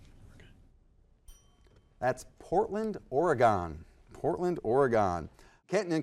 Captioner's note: bell dings